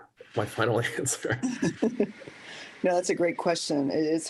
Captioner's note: laughter